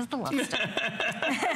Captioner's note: laughter